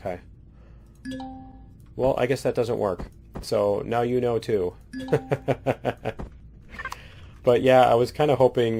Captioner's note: laughs